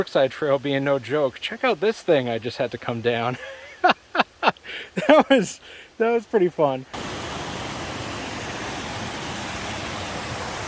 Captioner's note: laughing